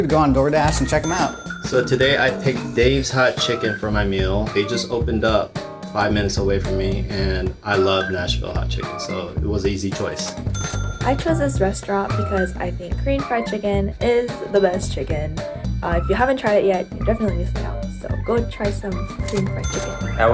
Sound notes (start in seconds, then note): 10.1 cash register dinging